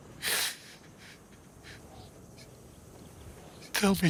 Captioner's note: crying